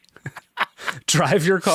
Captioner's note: laughing